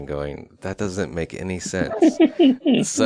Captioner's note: laughs